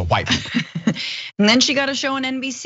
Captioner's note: laugh